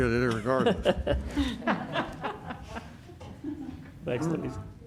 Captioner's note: laughter